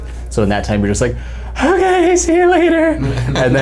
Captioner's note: high pitch voice; all laughing